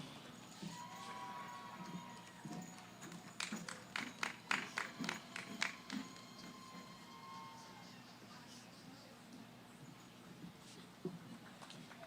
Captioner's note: cheering, applause